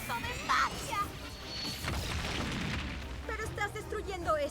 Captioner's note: crash